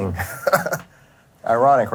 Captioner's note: laughs